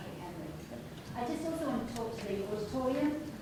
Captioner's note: speaking softly